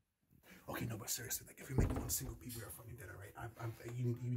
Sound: whispering

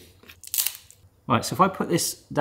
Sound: cone cracks

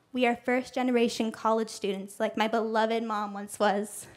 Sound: none

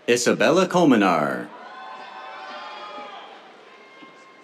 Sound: cheers

